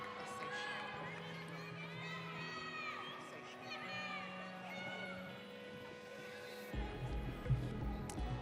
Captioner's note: audience cheering